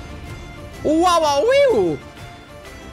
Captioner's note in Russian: Радостные звуки